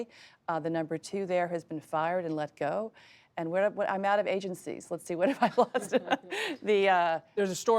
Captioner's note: laughs